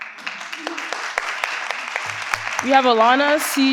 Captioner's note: participants clap